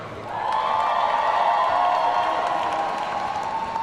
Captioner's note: audience cheering